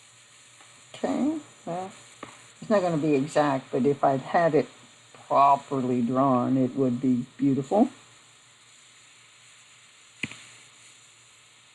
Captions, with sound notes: Okay, it's not going to be exact, but if I had it properly drawn, it would be beautiful. [Silence]